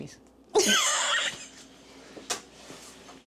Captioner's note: laughing